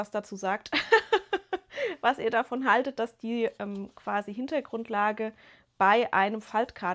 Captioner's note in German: gelächter